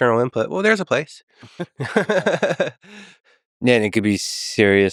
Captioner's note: Tim and Lex laughing